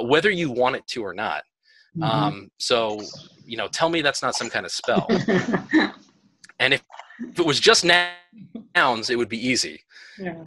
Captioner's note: laughter